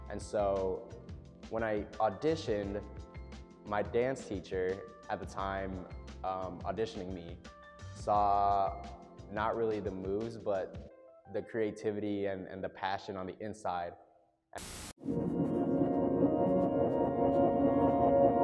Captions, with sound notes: And so when I auditioned, my dance teacher at the time, auditioning me, saw not really the moves but the creativity and the passion on the inside. (static) (ethereal music)